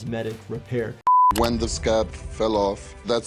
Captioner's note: screen beeping